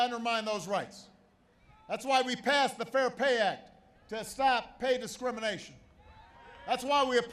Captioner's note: applause